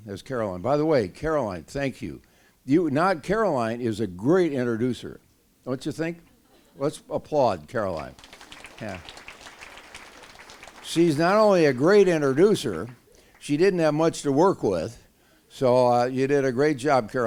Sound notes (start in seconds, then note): 7.9 applause